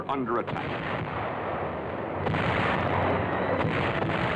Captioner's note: explosions